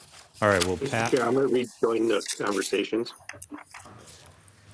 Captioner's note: pat